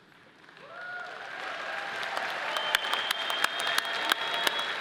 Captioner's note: audience applauding